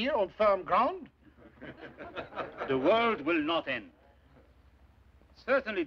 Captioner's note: delegates Chuckling